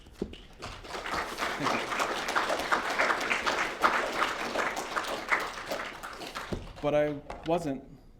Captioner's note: applause